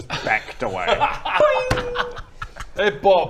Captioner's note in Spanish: risa cruel; boing